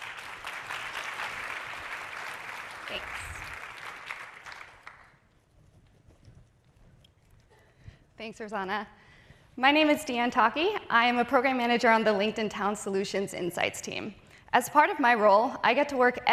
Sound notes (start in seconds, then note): 2.9 applause